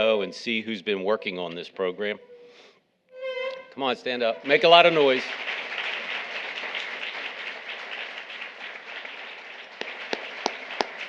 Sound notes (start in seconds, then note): 4.4 audience applauding